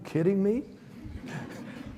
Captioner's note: audience laughs